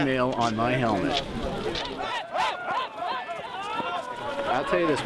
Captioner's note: chanting